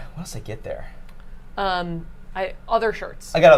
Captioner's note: none